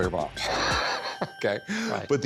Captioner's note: laughs